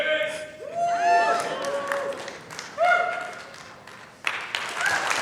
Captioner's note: cheering